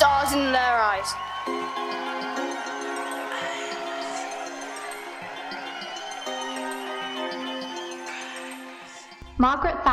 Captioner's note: crowd cheering; pop music